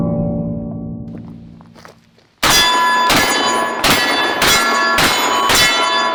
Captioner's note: gunshots